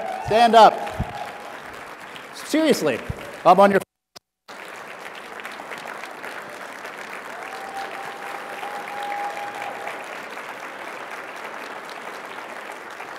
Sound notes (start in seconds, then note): 4.4 applause